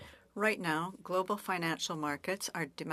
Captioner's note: speaking French